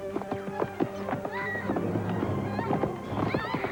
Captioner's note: girl screaming